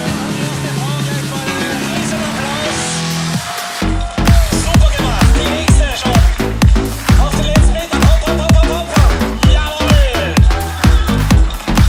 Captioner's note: music + Announcer speaking German in the background announcing runners